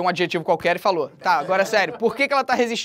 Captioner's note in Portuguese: risadas